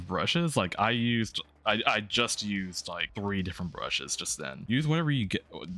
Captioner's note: stutters